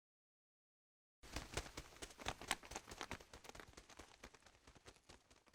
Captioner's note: wings flapping